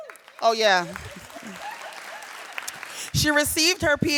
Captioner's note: audience applauding